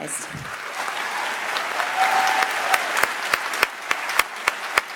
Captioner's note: audience applauds